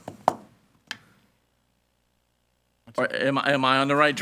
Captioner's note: gavel bangs